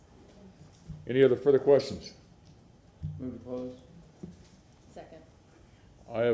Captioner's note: sounding gavel